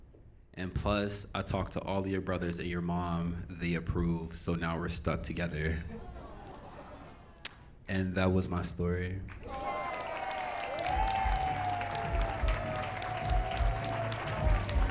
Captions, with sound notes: And plus, I talked to all your brothers and your mom, they approved, so now we're stuck together. And that was my story. (Audience Cheering)